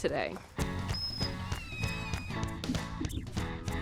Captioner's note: river otter squeaking; cheerful music